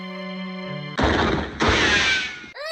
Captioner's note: baby cries